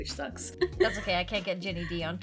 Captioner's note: laughs